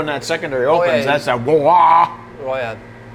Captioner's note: imitating engine